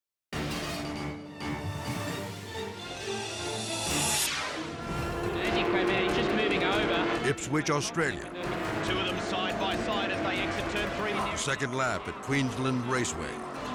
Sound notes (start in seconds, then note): 0.1 dramatic music; 3.8 dramatic air whoosh; 5.5 race-track announcer calling race; 13.5 cars grinding